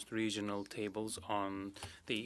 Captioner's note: speaking French